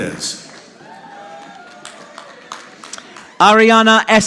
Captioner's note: audience applauding